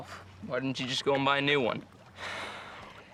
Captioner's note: sighs